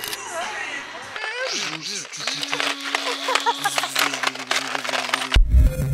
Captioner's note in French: Bruit d’aspirateur